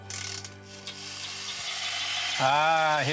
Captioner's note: toys clatter